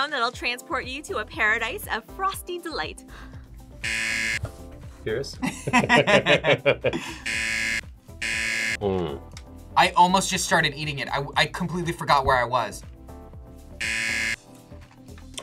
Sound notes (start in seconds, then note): 3.8 buzzer; 5.4 both laugh; 8.2 buzzer; 13.8 buzzer